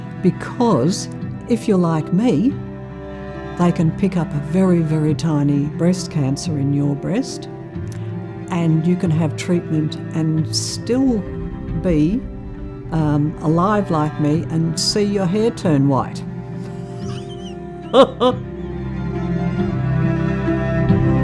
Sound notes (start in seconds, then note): 16.6 laughs; 18.4 gentle music